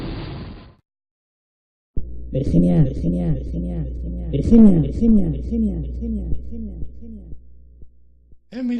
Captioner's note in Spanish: Voz con eco